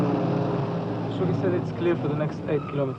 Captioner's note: engines dies down; speaking Hebrew